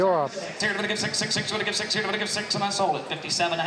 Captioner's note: auction chant